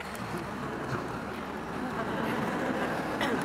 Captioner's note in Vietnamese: Tiếng cười